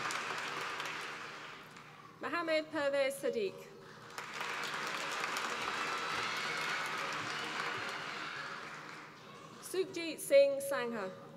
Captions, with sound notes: Muhammad Pervez Sadiq, (APPLAUSE) Sukhjit Singh Sangha.